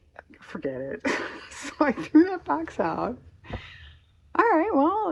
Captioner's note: laughs